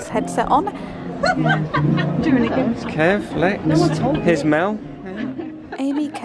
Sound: laughter

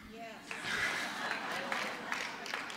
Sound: applause

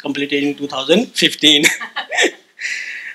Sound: laugh

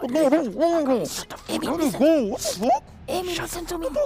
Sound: whisper

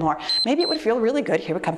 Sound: timer beeps

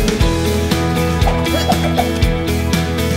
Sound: grunting

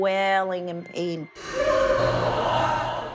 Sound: screams

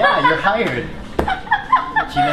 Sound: laughing

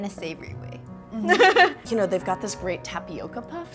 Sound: laughter

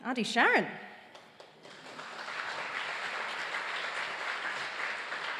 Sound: audience applauds

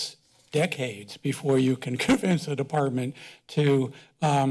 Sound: chuckles

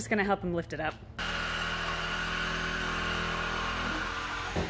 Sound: drilling sounds

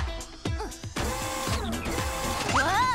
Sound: whirring

